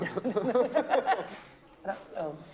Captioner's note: laughter